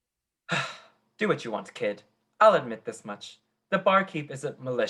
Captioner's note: sigh